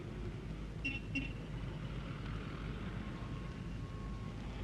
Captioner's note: horn honks